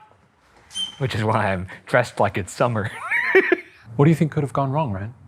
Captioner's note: chuckles